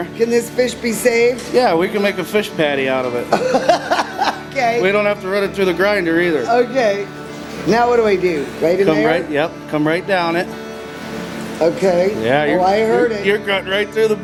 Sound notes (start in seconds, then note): 3.2 laughs